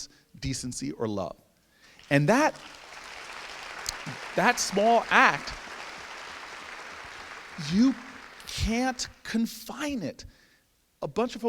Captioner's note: applause